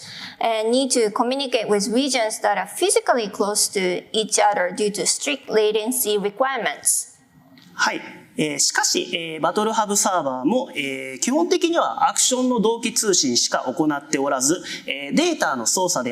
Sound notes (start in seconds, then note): 8.5 speaking japanese